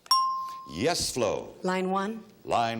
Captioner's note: bell dinging